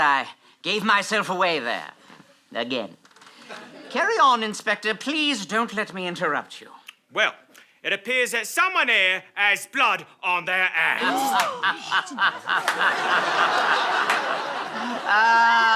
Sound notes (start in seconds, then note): 10.4 collective gasp; 12.4 sinister chuckle